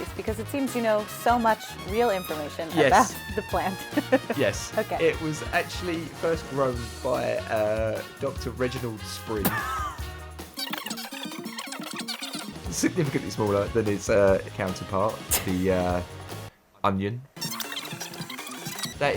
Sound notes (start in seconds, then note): 3.7 chuckles; 9.4 laughs; 10.5 fast-forward chirps; 16.4 laughs; 17.4 fast-forward chirps